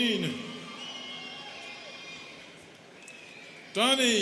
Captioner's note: students cheering